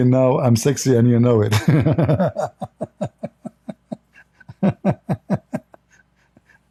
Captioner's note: Ketawa